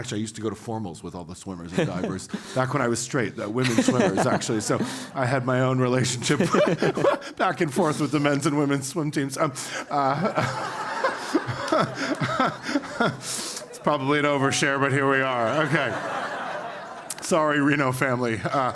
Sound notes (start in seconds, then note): 9.8 laugh; 15.3 laugh; 18.4 laugh